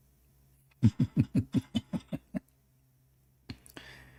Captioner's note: Ketawa